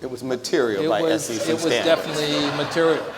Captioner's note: audience laughs